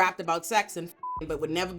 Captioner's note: beep